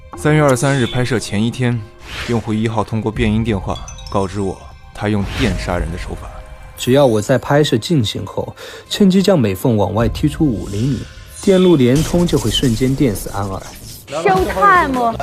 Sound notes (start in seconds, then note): 4.0 using a voice changer